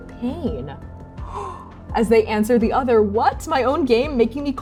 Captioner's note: gasping